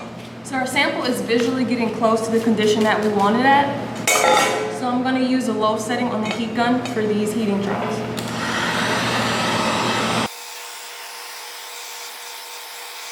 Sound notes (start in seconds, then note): 8.1 heat gun whirring